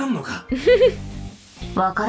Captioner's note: chuckles